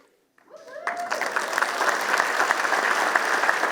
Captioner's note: applause